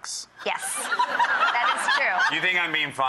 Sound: laughs

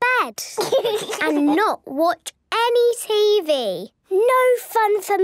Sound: laugh

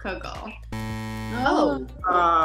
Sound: buzzing sound

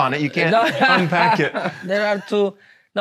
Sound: laughs

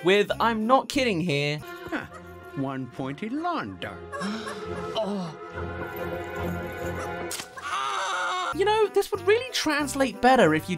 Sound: one pointed lawn dart, scream

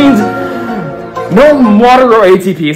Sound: dramatically takes breath

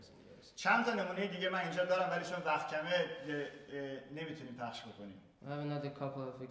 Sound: speaking in farsi

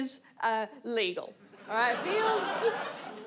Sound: audience laughs

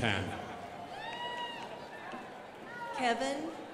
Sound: crowd applauding

